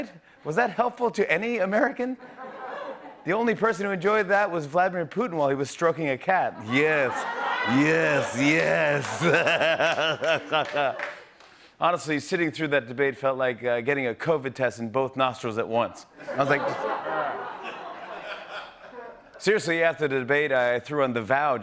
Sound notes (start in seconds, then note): 9.7 laughs; 16.2 laughter